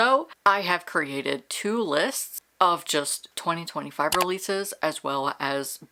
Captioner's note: mouse click